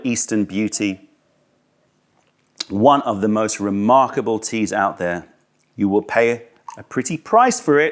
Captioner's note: sips tea